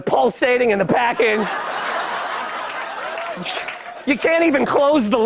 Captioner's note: laughter